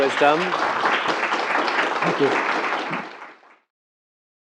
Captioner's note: applause